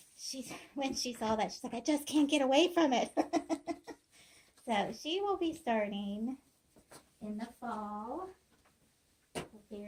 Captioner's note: laughing